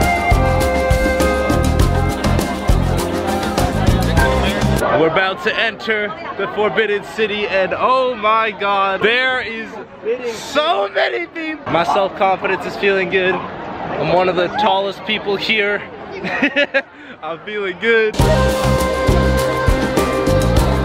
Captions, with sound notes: We're about to enter the Forbidden City, and oh my God. There is so many people. My self confidence is feeling good. I'm one of the tallest people here. (laughs) I'm feeling good. (calm music)